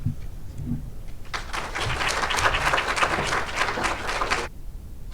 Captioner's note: audience applauds